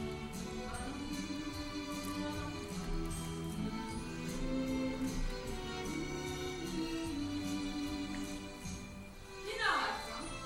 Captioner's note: Dolly humming